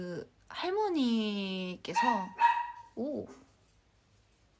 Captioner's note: bark bark